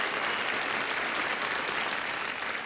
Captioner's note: applause